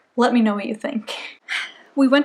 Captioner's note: exhale